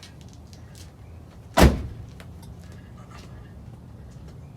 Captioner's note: door closes